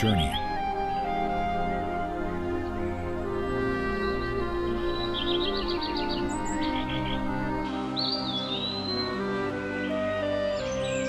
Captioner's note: birds chirping